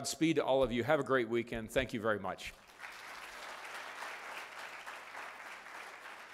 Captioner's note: applause